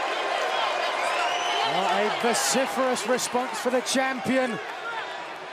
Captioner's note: cheers and boos